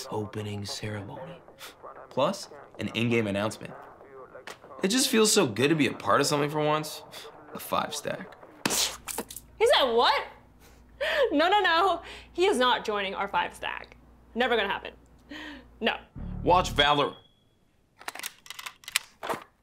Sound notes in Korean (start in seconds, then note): 16.6 연기 경보기 소리